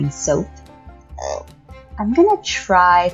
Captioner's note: sick frog sound